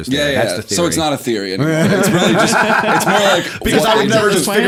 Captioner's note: laughter